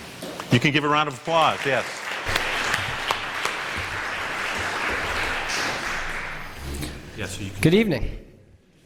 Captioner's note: applause